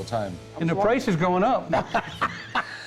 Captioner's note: laughs